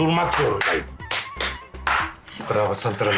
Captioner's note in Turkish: El çırpma sesi